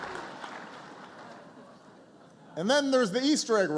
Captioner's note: laughter and applause